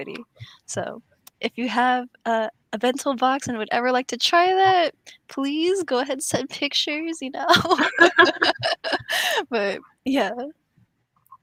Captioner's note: laughs